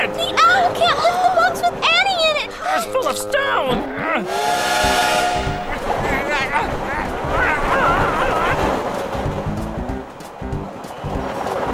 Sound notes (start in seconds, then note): 4.2 train Whistles; 7.2 grunting; 9.0 silly music